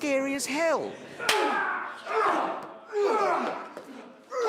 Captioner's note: both grunting